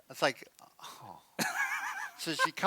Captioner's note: laughs